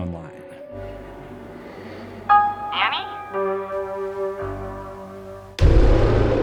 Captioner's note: breathing; thunder